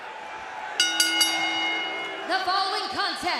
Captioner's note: bell ringing